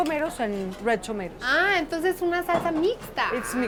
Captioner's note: speaking Spanish